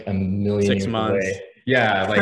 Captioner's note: laughing